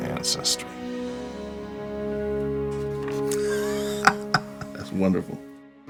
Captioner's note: laughs